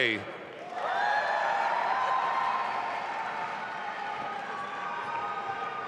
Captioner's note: audience applauding and cheering